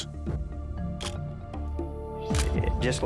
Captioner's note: camera shutter click